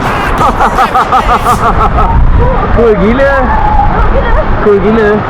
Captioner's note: laugh